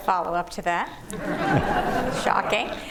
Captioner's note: laughter